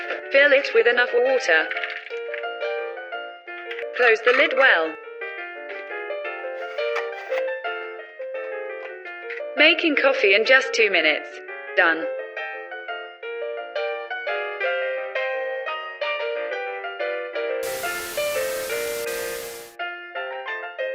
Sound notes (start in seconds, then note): 17.6 TV sound